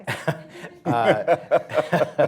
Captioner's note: laughter